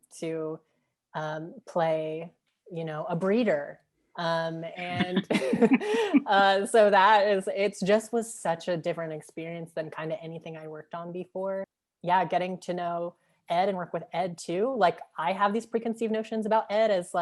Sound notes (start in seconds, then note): 4.8 laughing